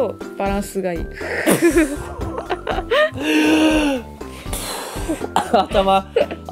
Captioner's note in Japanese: マインドブローンノイズ